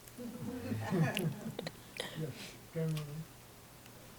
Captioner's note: audience laughing